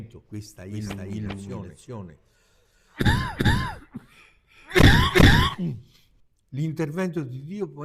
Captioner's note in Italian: risate